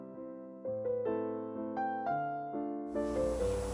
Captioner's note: heated oven